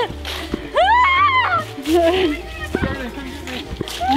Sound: screaming

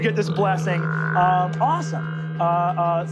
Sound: croaking

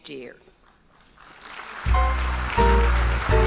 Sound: applause

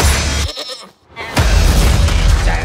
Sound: bleating

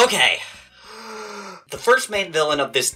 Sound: deep breath

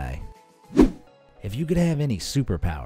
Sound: air whooshing

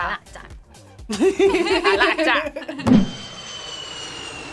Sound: both laugh; airplane engine roars

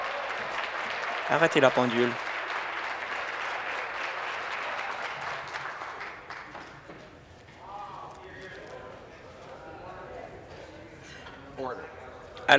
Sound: applause

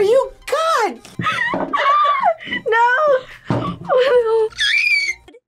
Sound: laughs; squeaks

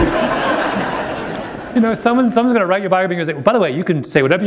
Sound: laughter

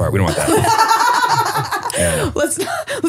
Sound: laughing

